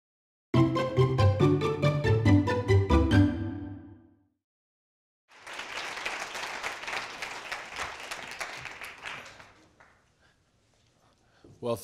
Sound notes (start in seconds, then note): 0.5 upbeat electronic music; 5.3 audience applauding